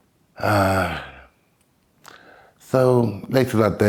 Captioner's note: sigh